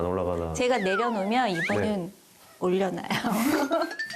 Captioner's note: laughs